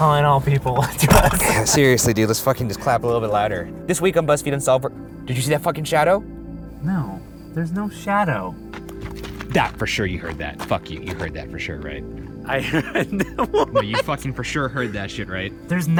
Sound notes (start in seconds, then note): 12.6 laughing